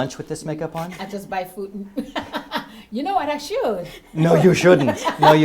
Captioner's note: laugh